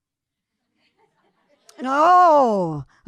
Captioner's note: audience laughing